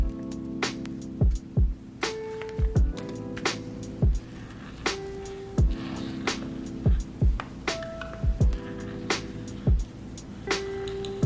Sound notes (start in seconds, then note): 0.0 bright electronic music; 5.9 pen scribbling